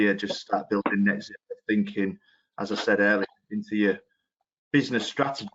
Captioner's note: audio distorts 01.33